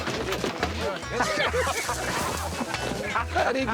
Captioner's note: laughter